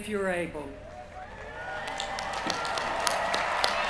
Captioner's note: cheering